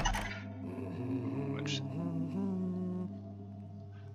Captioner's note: keys jingle, doors clamber open; guard starts humming